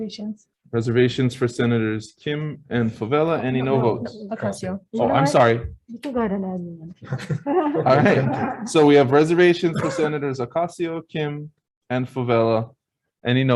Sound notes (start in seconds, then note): 7.0 laughs; 8.6 group laughs